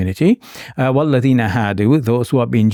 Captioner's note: speaking in Arabic